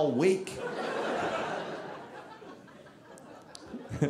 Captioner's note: audience laughing